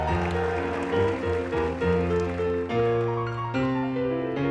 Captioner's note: audience applauding